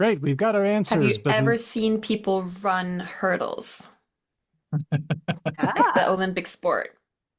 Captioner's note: laughs